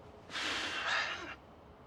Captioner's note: Nash sighing